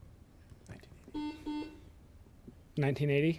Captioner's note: beep